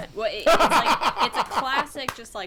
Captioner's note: laughing